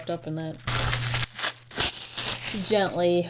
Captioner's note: packaging crinkles